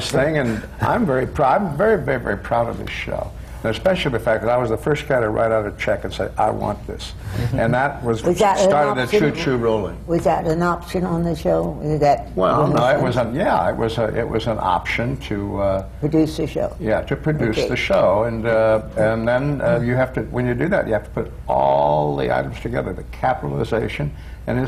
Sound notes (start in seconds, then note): 9.2 laughter from the panel